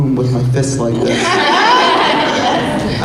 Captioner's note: laughter